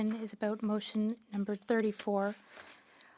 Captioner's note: speaking French